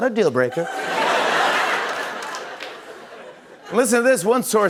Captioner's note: laughter